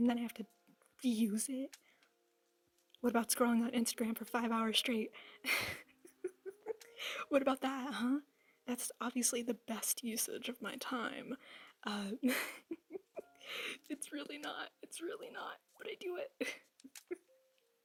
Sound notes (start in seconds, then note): 8.1 sarcasm